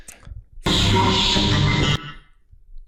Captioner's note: demonic noises